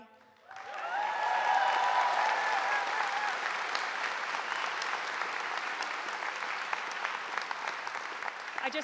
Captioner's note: applause